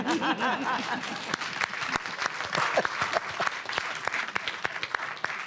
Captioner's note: laughter; applause